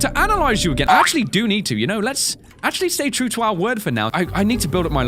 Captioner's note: boing